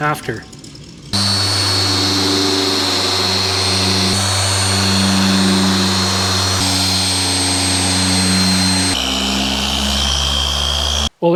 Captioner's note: polisher Noise